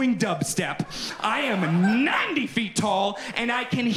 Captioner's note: audience continues laughing